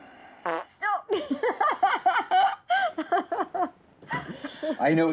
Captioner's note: farting noise; laughing